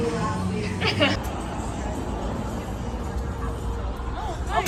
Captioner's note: laughs